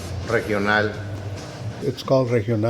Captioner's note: speaks in Spanish